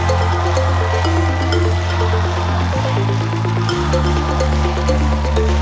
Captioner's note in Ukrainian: оплески